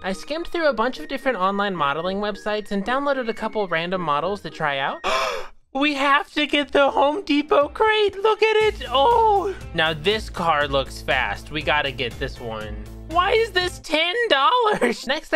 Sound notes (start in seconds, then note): 5.0 gasp